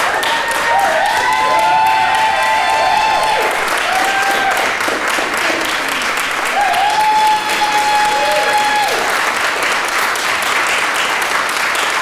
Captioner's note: applause, cheering